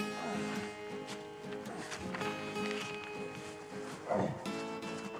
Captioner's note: Isaac continues groaning